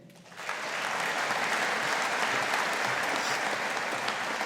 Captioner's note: audience applauding